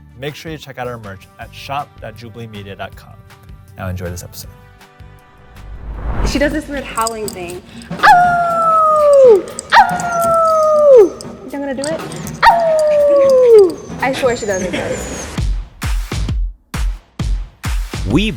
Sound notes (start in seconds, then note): 7.8 howling like a dog; 15.7 upbeat music